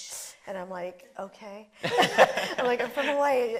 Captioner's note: laughing